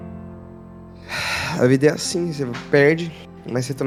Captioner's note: sigh